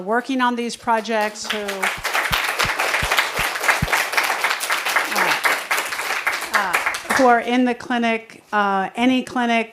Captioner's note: applause